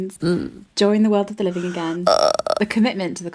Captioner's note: tired groan